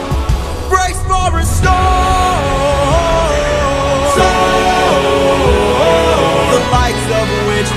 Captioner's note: storm